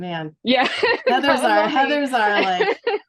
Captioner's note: laughs